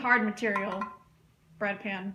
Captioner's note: taps pan